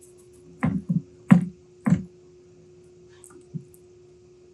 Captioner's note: box thudding